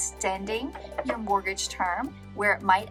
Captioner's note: table tapping